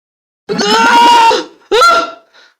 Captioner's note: scream